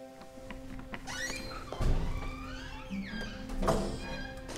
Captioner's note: door squeaking